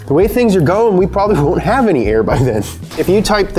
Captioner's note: laughing